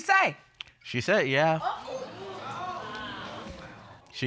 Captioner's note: audience exclaiming